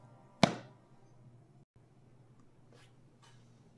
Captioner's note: hand pats